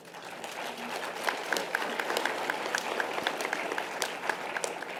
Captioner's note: audience applause